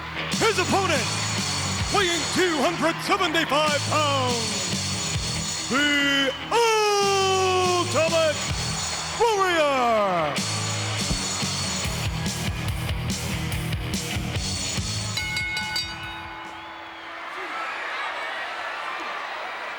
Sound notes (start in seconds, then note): 0.0 upbeat music; 0.3 audience cheers; 14.9 bell rings; 16.8 audience cheers